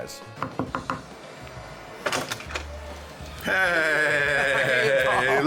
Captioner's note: tapping on door